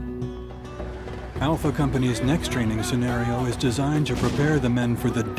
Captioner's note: voiceover